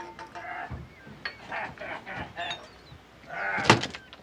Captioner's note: laughing